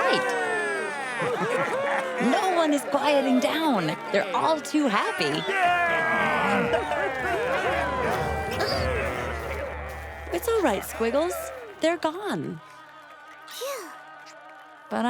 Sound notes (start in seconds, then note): 0.2 cheering; 5.7 grumbling